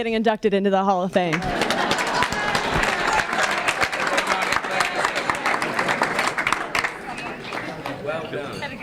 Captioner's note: applause and laughter